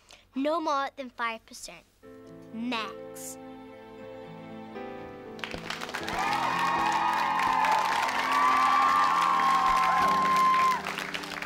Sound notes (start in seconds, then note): 5.3 applause